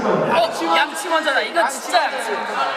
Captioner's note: all shout out brush first